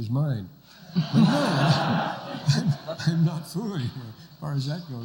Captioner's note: laughter